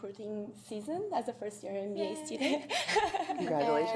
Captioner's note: laughter